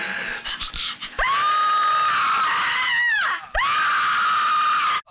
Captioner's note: Linda screams